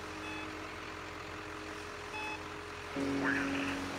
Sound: monitor beeping; radio chattering

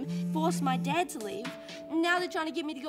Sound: phone vibrates

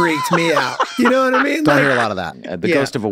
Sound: Glenn laughs

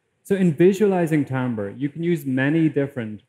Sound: none

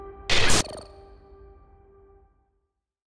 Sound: screen glitching

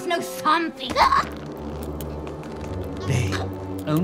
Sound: gasping

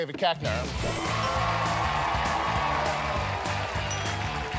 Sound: cheers and applause

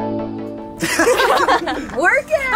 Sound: all laughing

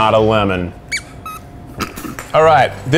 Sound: squeaking sounds; chuckles

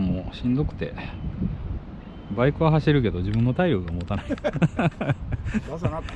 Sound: laughs

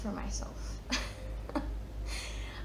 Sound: chuckles

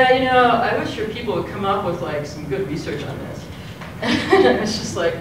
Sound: laugh

